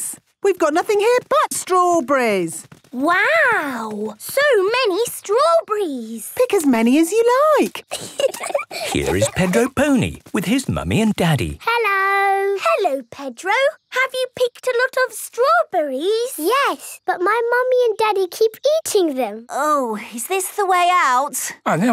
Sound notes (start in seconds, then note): 7.8 giggling